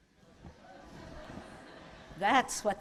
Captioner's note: laughter